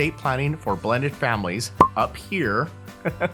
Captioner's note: laughs